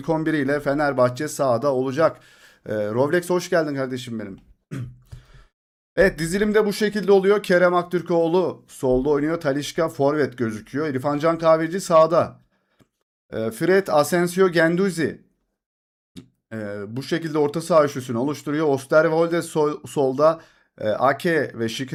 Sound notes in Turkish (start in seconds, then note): 4.7 boğazını temizler